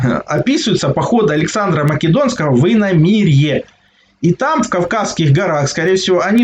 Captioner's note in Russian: откашливается